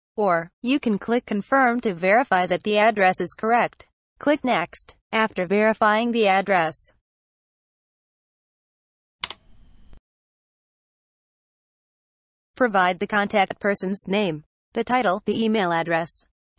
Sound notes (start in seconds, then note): 9.2 click sound